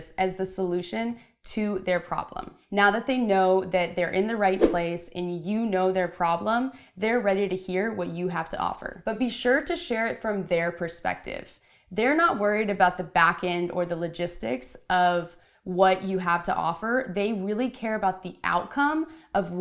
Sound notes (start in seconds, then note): 4.5 whooshing